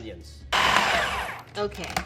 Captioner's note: food processor slowing down